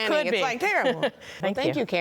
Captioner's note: laughs